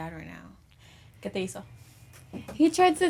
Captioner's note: speaks in foreign language